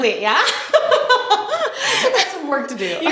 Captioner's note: laughing